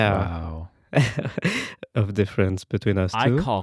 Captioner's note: laughing